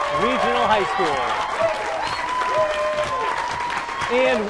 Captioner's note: cheering